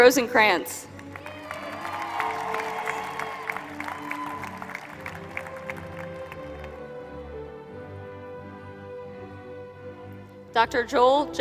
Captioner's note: applause